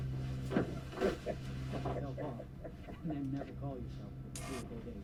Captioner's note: men chattering